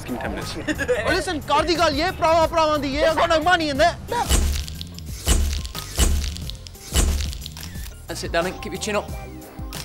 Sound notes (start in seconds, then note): 4.3 camera nd lights clicking